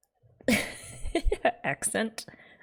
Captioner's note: laughs